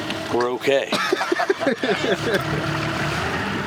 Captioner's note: laughter